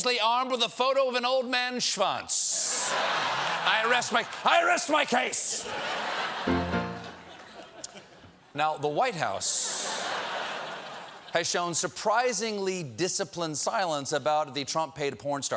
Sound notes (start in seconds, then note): 5.5 laughter; 6.4 piano riff